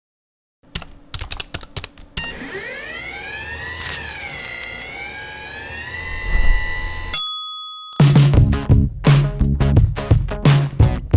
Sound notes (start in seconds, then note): 1.1 typing on keyboard; 2.2 machine whirring; 7.1 bell dings